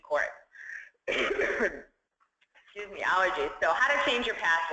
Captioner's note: cough